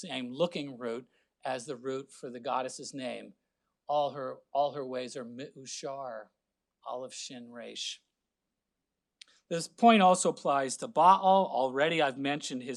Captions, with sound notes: same looking root, as the root for the goddess' name, (speaking Hebrew) This point also applies to Ba'al, already I have mentioned